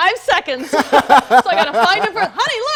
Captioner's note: laughing